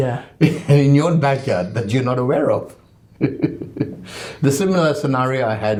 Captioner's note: laughs